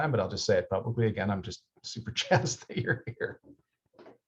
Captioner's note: laughs